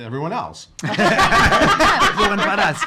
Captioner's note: laughing